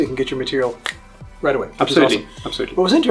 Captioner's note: snaps